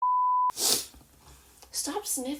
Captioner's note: sniff